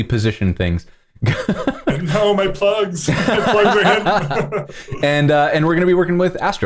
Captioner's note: laughter